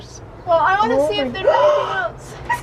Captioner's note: gasps